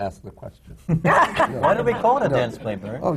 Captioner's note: laughter